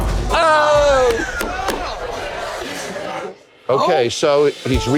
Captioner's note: everyone exclaiming in disgust